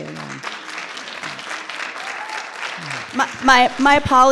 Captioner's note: audience applauding